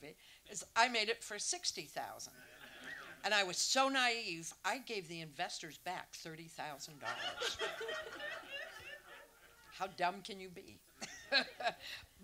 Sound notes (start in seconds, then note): 7.0 audience laughs; 11.0 chuckles